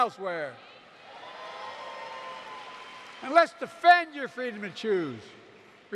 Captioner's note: applause